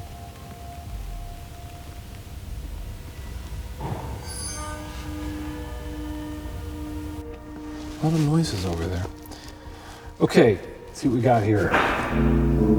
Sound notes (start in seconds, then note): 3.9 knock thuds; 4.8 eerie dramatic music; 11.7 knock thuds